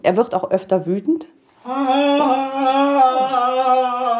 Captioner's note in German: schreit